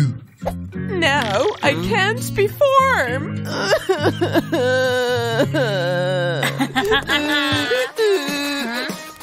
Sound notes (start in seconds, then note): 4.8 roaring; 6.8 making excited sounds